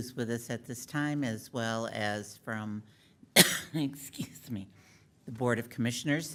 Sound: coughs

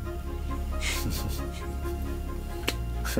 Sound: laughs

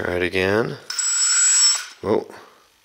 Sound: high pitch whirring

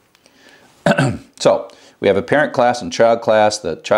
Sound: cough

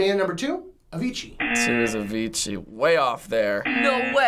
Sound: buzzer

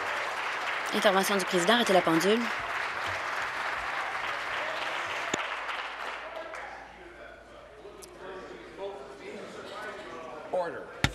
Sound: applause

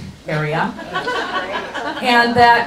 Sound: audience laughs

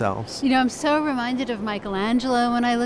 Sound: voiceover

